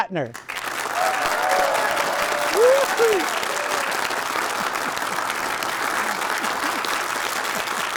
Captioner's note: audience clapping